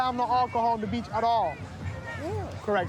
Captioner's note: none